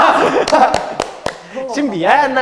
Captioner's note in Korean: 물개 박수